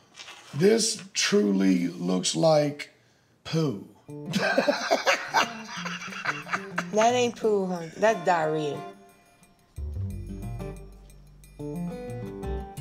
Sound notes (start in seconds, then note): 4.3 laughs